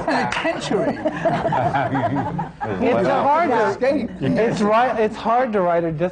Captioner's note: laughter